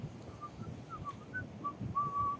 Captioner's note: Elon whistling the 1812 Overture